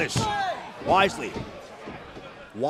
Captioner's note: crowd chatter